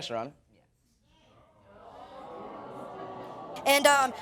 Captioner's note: audience exclaiming